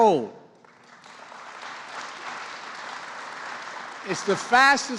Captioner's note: applause